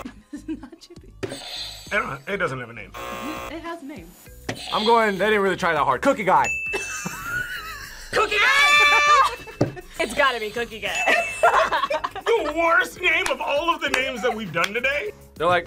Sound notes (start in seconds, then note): 2.9 buzzer rings; 2.9 buzzer; 6.4 bell rings; 6.7 group laughs; 9.2 buzzer rings; 10.7 bell rings